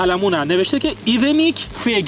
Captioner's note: in Swedish